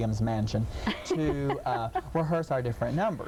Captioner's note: laughing